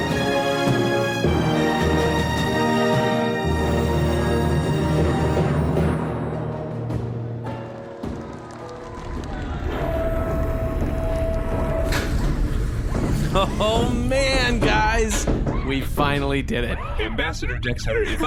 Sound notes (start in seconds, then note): 3.2 Bargie’s hatch closes on a cheering crowd